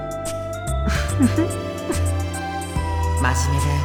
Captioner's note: chuckle